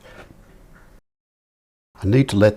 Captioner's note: silence